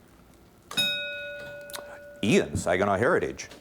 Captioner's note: ding